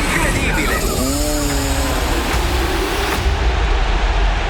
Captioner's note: kart sound and background music; crowd cheering